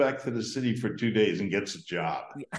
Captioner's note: laughs